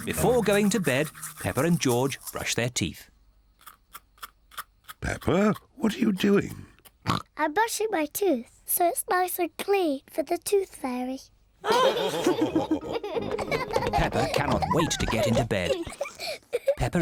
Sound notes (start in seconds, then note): 7.0 oinks; 11.6 all laughing